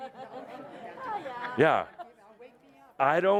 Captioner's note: laughter